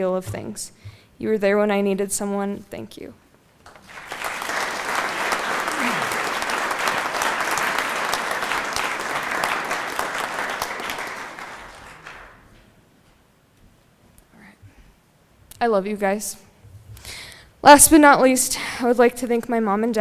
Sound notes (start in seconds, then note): 6.7 applause